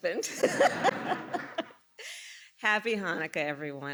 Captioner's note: laughter